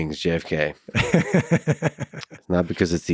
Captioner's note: laughs